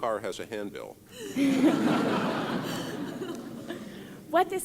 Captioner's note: laughter